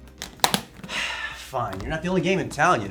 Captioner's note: sighs